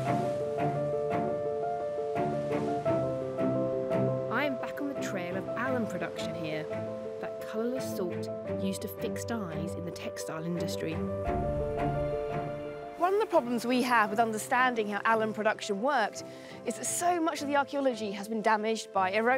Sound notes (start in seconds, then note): 0.0 waves crashing; 0.1 gentle piano and orchestral music